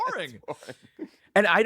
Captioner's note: laughs